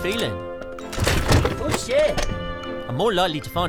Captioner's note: loud crash